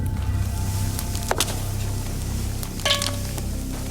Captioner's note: thudding